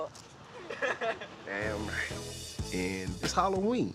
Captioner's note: laughter